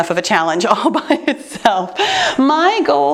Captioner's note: chuckles